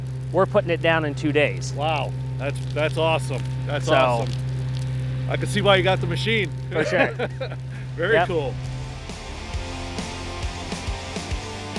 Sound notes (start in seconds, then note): 6.7 laughs; 8.0 upbeat music